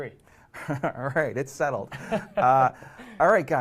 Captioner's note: laughs